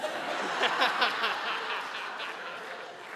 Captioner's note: audience laughing